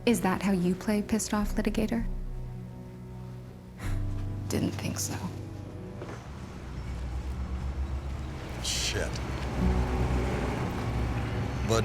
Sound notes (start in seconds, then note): 3.5 scoffs